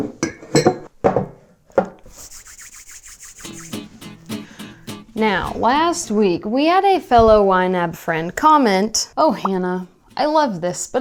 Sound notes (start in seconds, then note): 0.2 cups clang; 2.0 hands rustle; 2.3 lively acoustic guitar music